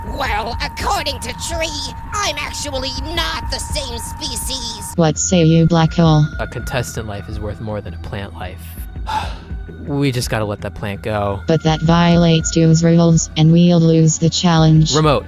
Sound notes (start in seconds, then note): 9.0 sigh